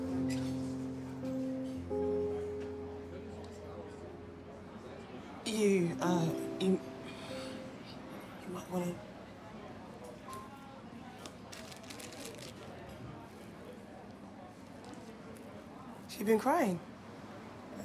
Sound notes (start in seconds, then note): 3.4 customers chattering indistinctly; 11.3 plastic rustling